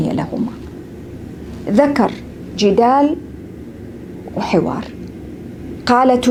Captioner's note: argument